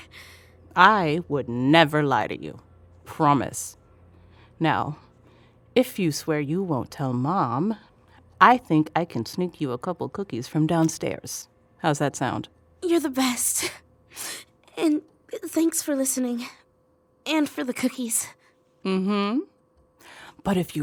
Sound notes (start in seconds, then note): 0.0 sniffling; 14.1 sniffling